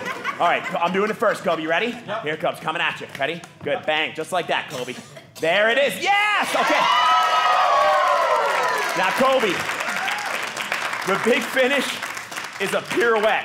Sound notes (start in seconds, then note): 6.2 audience cheering